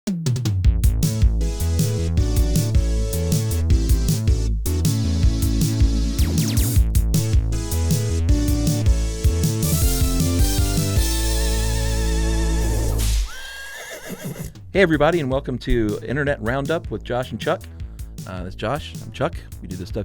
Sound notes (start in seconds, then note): 0.9 upbeat synthetic music; 13.2 horse whinnies